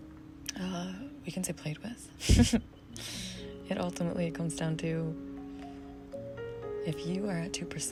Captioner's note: giggles